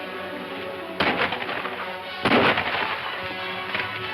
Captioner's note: gunshots